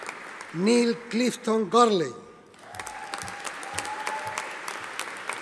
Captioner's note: audience applauding